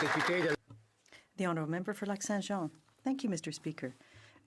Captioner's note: some Applause